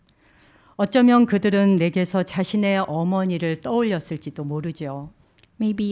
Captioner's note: speaking in Korean